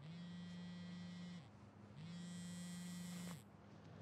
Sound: phone buzzing

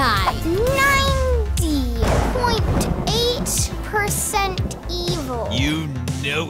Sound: thunder rumbles

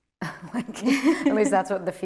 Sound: both laughing

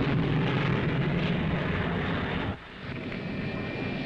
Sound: planes roaring

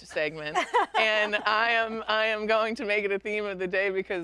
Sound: chuckling

